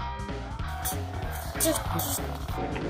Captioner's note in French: voix du bébé